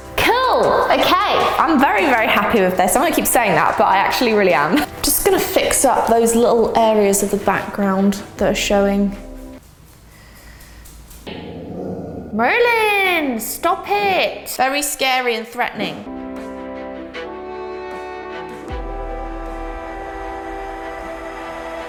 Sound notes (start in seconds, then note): 13.3 sarcastically